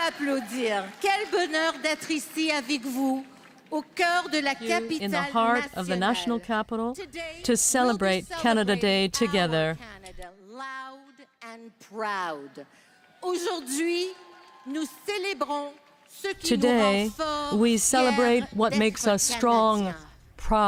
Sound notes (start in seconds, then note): 0.0 applause; 0.3 speaking French